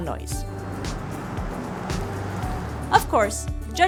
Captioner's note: engines humming